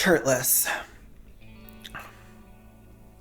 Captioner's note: gay gulp